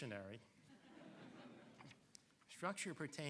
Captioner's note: audience laughing